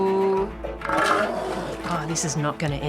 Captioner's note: seal roars